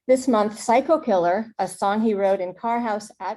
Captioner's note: none